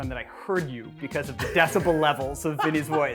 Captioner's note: group laughs